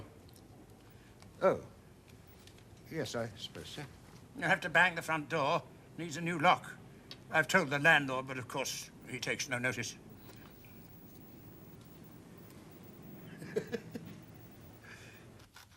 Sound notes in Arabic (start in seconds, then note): 13.2 ضحكة مكتومة